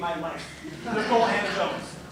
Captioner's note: laughter